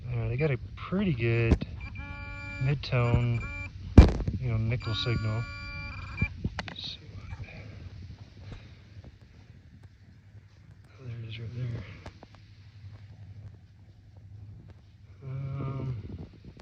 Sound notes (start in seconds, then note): 7.7 beeping